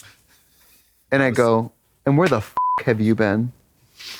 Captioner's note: beep